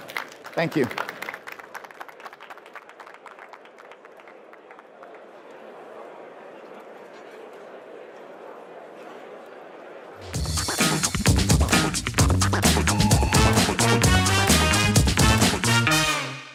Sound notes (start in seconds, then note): 5.4 applause